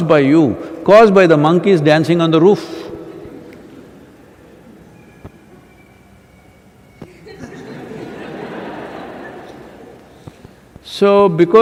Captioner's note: laughter